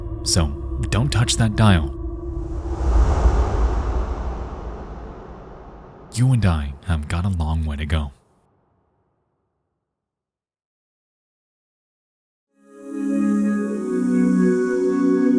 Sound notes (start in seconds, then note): 2.2 booming sound; 12.6 gentle tones